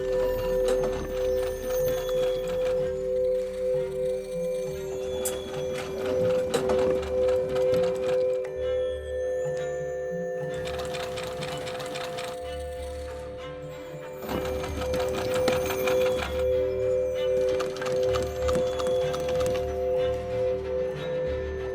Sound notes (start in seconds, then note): 0.0 bowls singing; 0.3 light suspenseful music; 0.3 machine humming; 4.9 bowls singing; 4.9 machine humming; 11.0 machine humming; 16.7 bowls singing; 16.7 machine humming